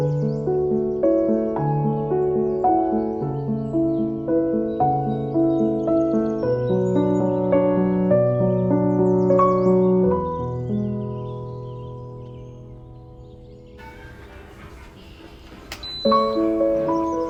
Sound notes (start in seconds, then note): 5.9 birds chirping; 15.7 machine beeping; 17.0 calming piano music